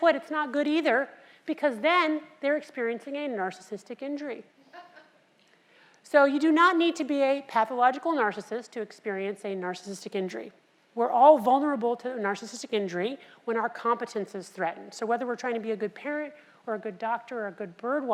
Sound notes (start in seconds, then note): 4.9 laugh